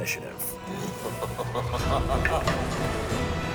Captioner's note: laughs; intense music